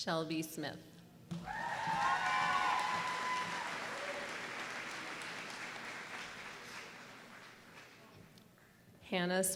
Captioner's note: applause